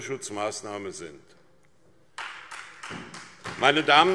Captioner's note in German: Beifall SPD